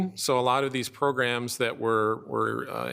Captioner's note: none